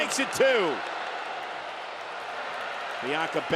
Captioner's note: crowd cheers